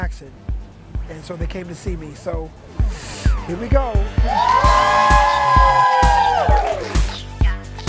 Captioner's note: cheering